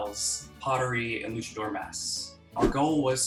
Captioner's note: air whooshing